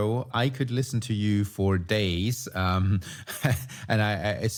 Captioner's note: chuckles